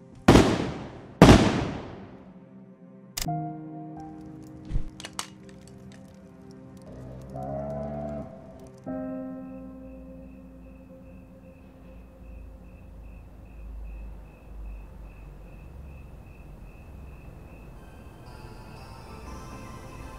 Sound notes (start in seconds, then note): 0.2 shotgun blasts; 4.6 thump, metal hitting ground; 6.9 deep mooing